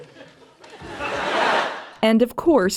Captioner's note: audience laughter